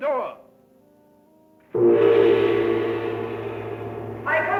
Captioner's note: gong resonating